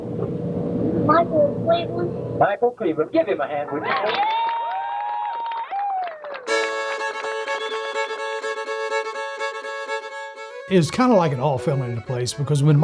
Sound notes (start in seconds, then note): 3.8 audience cheers and applauds